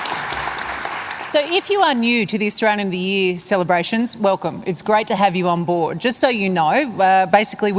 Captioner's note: applause